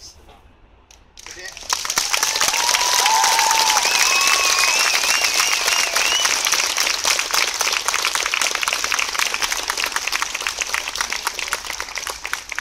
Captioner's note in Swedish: Jubel och applåder